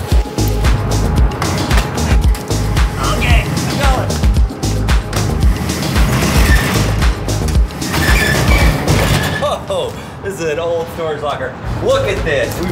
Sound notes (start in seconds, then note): 0.3 bass thumping music; 7.5 door squeaking